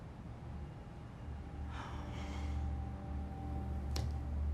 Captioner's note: sighs